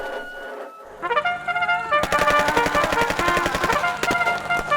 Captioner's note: shouting, gunfire